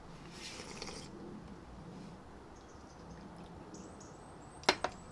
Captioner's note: sips tea